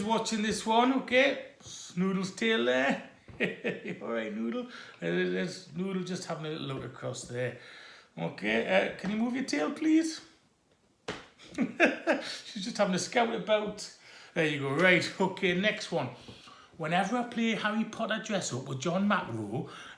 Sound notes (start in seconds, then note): 3.4 laughs and speaks to the cat; 11.4 shrugs and laughs